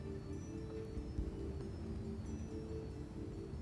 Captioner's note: whispering